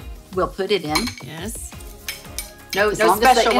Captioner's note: metal scrapes